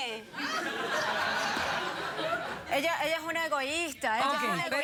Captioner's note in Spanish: risas